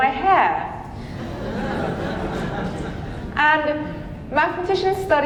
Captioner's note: audience laughing